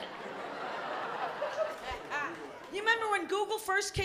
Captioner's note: laughter